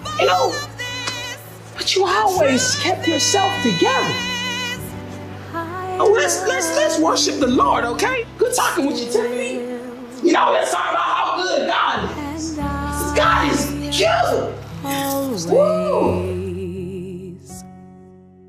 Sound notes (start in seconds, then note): none